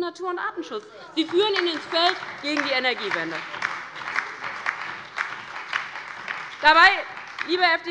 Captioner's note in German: Beifall bei der LINKEN und dem BÜNDNIS 90/DIE GRÜNEN